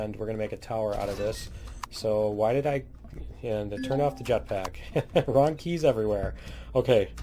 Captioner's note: laughs